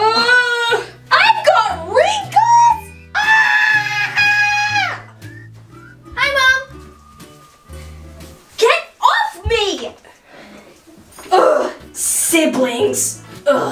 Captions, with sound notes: (yells) I've got wrinkles! (screams) - Hi, mom! - Get off me! Ugh, siblings, ugh.